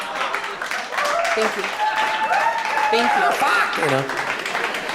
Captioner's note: laughter and applause